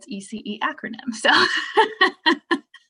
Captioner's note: laughing